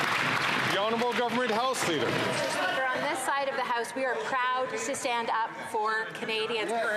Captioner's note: some Applause